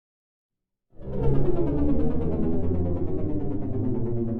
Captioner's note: aircraft whirring